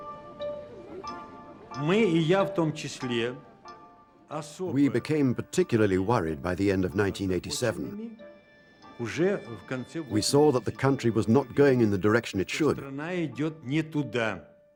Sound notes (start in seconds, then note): 3.4 speaking Russian